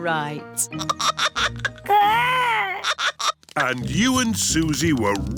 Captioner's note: giggling